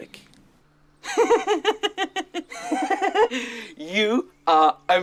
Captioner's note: Bodil laughing